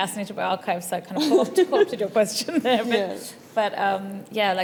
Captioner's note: laughs